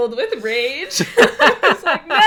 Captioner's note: laughs